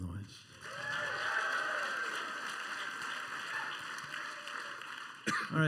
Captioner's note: quieter cheering and applause